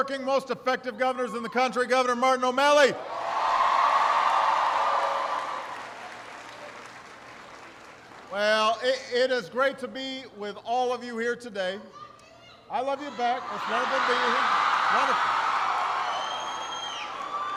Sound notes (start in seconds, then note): 3.5 applause